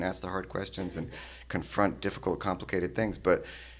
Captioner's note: none